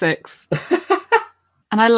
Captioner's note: laughs